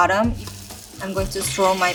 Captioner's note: eggs sizzling